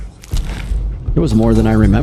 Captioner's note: gunshots